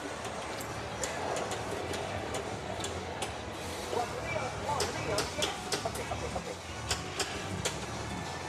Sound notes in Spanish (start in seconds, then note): 3.8 voces desde el pinball